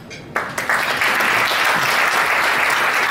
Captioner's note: applause